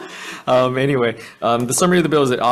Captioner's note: laughs